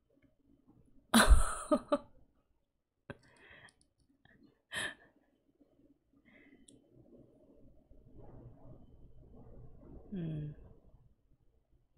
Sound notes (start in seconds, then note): 1.2 shocked laughter